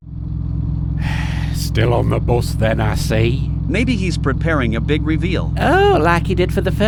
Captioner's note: sigh